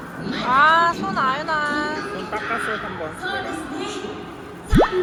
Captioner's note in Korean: 부글부글